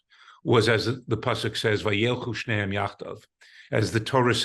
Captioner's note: speaking hebrew